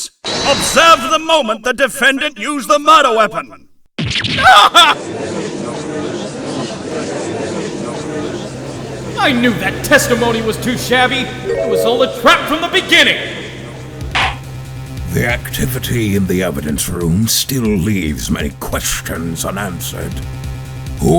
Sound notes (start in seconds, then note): 5.5 gallery chattering; 14.0 gavel slams!